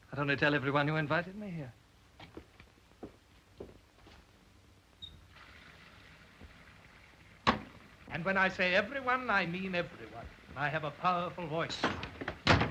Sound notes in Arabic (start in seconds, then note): 5.0 الماء الجاري; 11.8 يُصفق الباب بقوة; 12.3 يُطرق على الباب بقوة